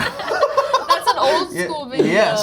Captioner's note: all laughing